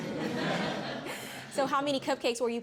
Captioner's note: chuckling